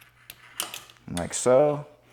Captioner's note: lock clicks